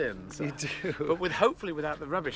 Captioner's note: laughing